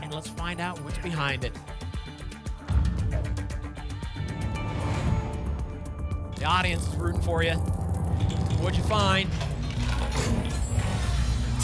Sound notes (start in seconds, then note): 2.6 thump; 4.2 whoosh; 8.9 cash register sounds